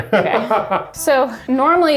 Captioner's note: laughs